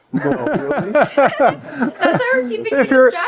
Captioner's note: laughing